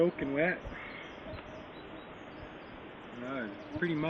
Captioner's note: birds singing